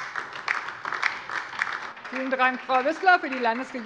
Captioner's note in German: Beifall DIE LINKE